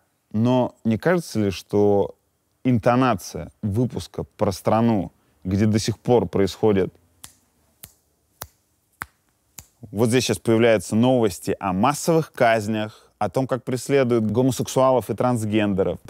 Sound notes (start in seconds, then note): 7.1 snaps fingers